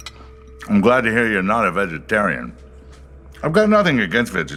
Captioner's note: chewing; with mouth full